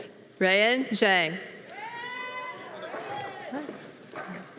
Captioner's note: audience applause